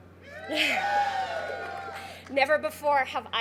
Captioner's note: crowd cheers